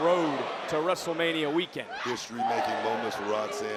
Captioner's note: wrestlers grunting